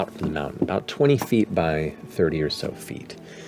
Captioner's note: none